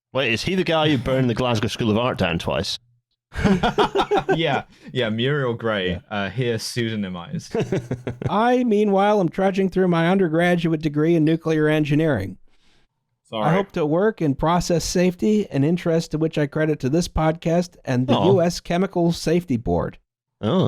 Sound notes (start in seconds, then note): 3.3 laughter; 6.8 laughs